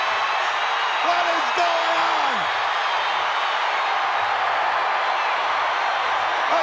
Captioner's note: crowd roars and applauds